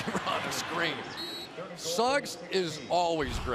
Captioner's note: whistle